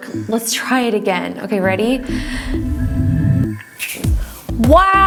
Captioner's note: snaps finger